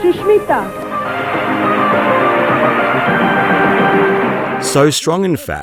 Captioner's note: audience applauding